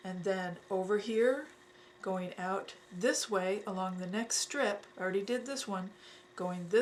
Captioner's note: none